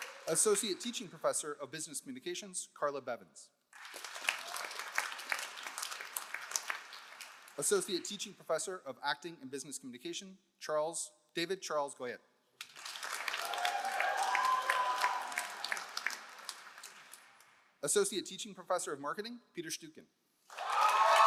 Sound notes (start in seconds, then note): 0.0 all applauding; 3.7 all applauding; 12.6 all applauding; 13.2 all cheering; 20.5 all applauding; 20.5 all cheering